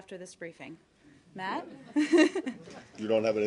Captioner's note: laughter